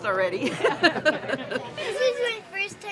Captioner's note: laughing